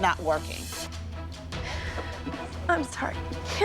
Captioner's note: crying